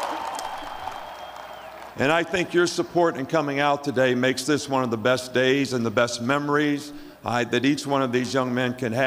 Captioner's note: cheering